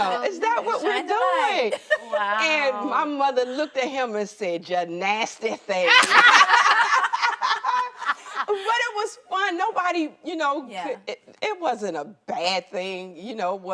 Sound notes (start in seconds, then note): 0.2 women laughing; 5.8 ladies laughing